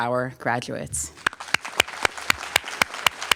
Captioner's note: applause